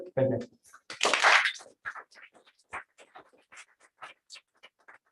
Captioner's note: applause